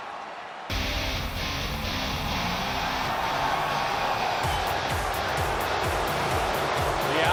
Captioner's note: crowd cheering; rock music